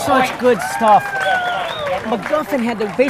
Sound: audience applauding and cheering

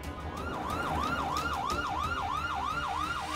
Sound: siren blaring

